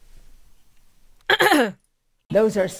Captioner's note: clears throat